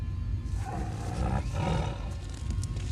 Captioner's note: suspenseful music; animal growling